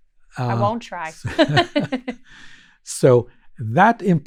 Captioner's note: laughs